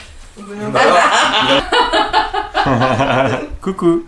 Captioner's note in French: rires